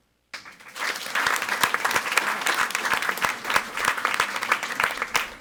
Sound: audience applauding

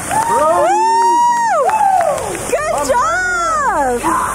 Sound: hollers

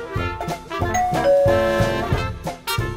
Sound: door bell

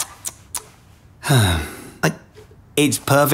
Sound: sighs

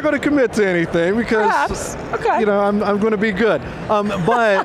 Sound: chuckles

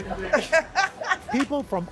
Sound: laughter

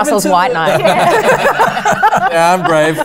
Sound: laughter

